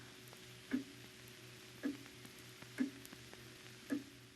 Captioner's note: clock ticking